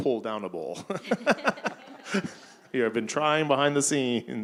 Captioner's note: audience chuckling